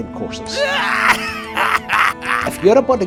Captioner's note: man laughing